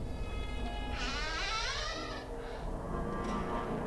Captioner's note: door creaking; gentle tense music